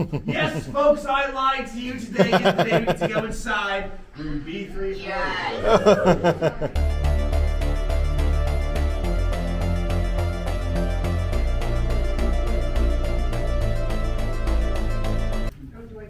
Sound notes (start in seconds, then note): 0.0 more nervous laughter; 5.0 group cheers; 5.6 exciting music